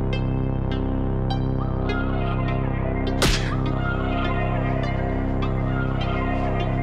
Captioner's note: eerie music; hands clapping